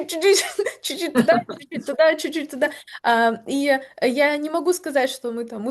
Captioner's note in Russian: смех